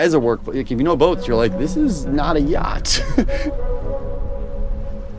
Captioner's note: laughs